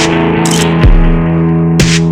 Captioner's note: photo click